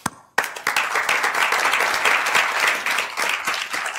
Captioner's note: applause